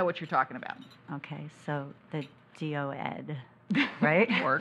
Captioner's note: laughs